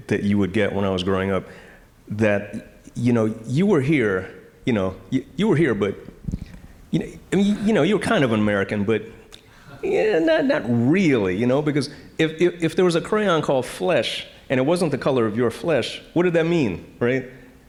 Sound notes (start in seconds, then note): none